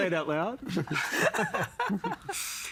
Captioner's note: all laughing